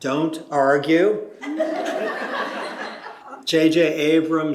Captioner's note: laughter